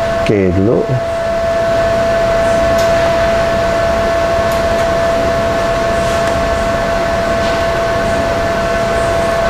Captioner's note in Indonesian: suara mesin